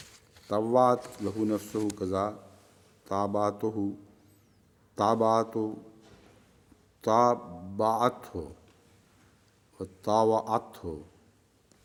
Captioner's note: Arabic